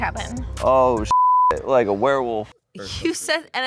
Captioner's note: beep